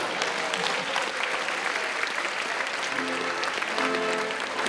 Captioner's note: attendees applauding; ceremonious music